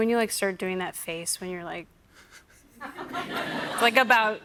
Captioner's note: laughter